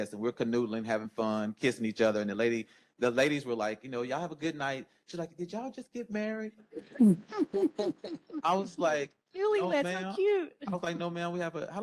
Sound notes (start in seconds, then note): 6.8 all laugh